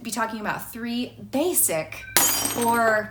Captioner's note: glass shattering